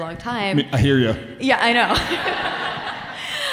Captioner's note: audience laughing